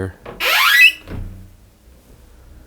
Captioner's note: door squeaks again